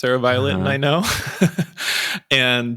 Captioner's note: charles chuckles